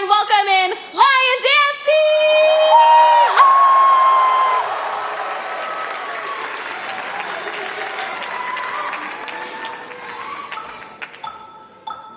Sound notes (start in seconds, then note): 3.1 cheering; 4.0 applause; 4.8 cheering